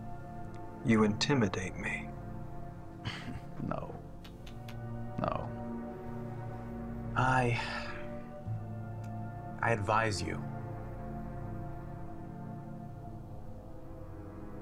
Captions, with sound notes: - You intimidate me? - No, (clicks tongue) no. I advise you.